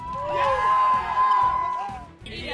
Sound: shouts

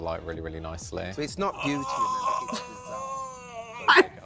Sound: Katya groaning

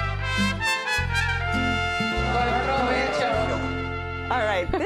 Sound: speaking Spanish

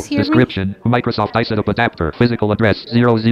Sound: computer audio continues

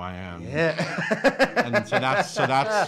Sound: laughs

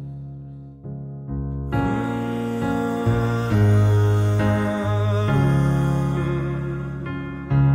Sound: humming

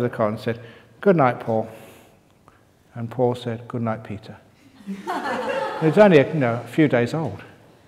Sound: laughter

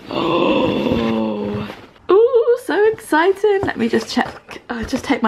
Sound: loudly groans

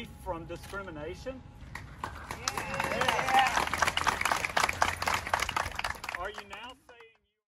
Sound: applause

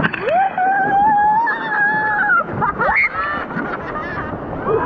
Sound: screams; laughing

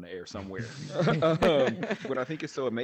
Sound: group laughing

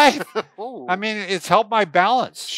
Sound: laughs

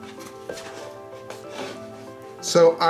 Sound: fingers scratching

